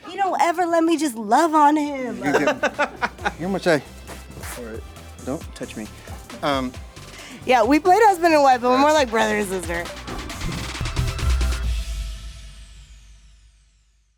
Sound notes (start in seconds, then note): 1.9 laughs; 10.4 upbeat music